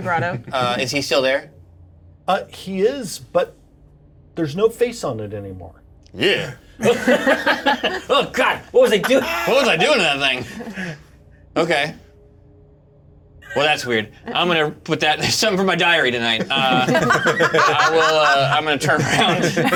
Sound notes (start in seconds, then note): 6.4 Jim groans; 6.8 laughter; 16.3 laughter